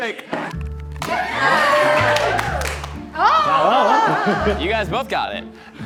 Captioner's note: onlookers cheering